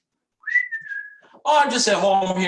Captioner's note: whistling happily